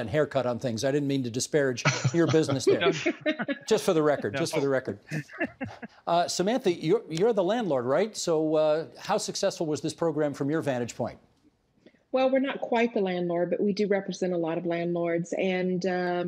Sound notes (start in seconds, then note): 5.1 laughter